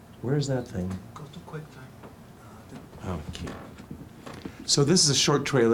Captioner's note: murmurs